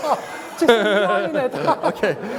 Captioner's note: laughter